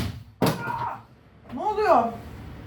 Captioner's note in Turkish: Çığlık